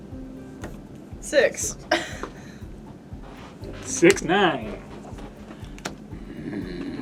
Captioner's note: exasperated growling